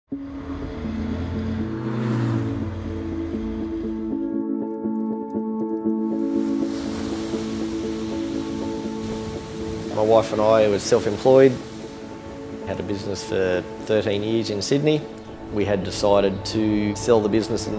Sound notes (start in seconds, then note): 0.1 gentle music; 1.9 bike engine purring; 6.1 waves rushing